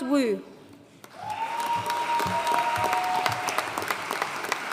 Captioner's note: audience cheering and applauding